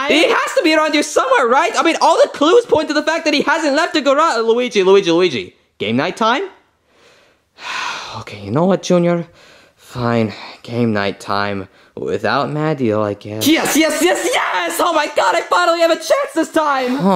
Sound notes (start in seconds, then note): 7.6 Luigi sighing